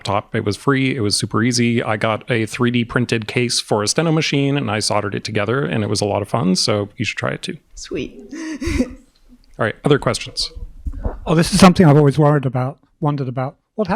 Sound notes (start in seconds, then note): 8.2 chuckles